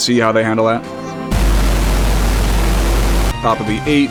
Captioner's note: ethereal wooshing